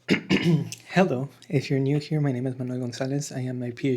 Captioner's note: clears throat